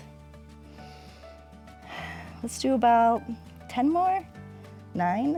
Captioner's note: inhales and exhales